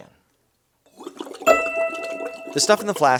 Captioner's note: water burbling